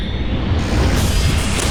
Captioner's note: Reload Explodes!